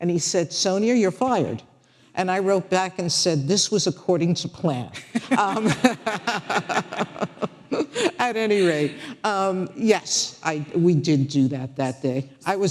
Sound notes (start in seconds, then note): 5.1 audience laughing